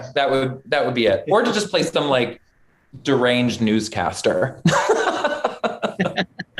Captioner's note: laughs; laughter